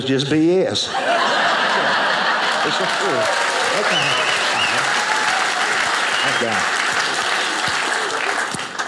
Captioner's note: audience applauding